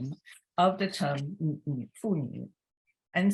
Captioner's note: speaks Chinese